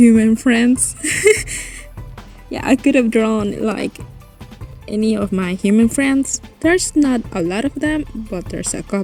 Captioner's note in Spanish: risas